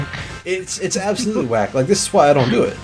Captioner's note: laughing